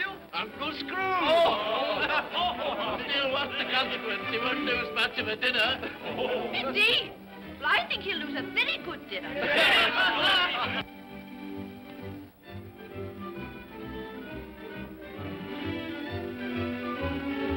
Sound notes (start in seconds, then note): 1.0 guest laugh; 9.3 guests clamor in agreement; 10.7 upbeat music